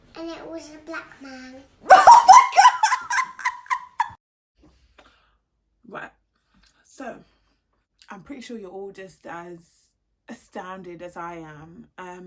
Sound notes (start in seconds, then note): 1.9 laughs